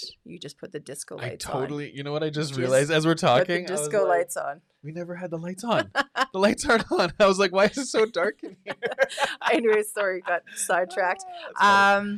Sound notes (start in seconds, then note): 7.5 laughs; 9.0 both laughing